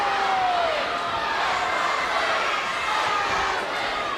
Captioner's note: crowd cheering